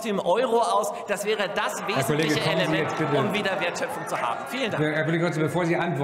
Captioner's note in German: Zurufe von der SPD und dem BÜNDNIS 90/ DIE GRÜNEN